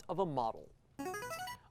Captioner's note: buzzer